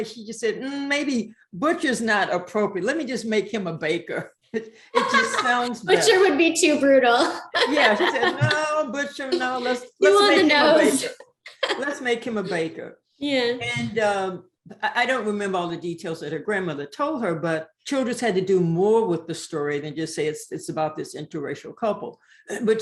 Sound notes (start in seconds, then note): 4.9 laughs